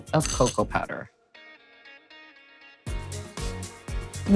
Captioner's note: spoon clinking